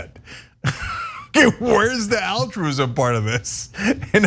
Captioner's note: laugh